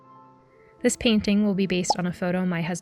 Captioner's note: pop sound